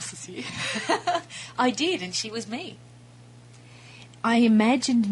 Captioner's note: laughter